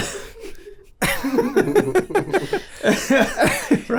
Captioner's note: laughing